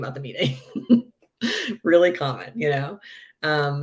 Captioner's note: laughing